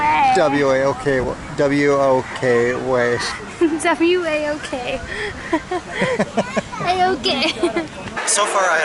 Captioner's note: laughter